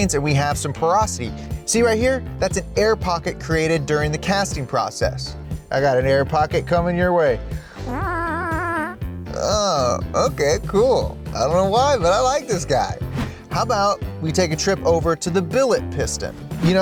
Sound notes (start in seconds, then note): 8.1 farting